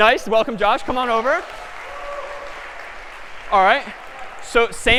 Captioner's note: applause